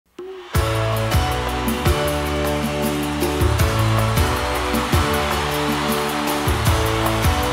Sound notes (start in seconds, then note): 3.9 crowd cheering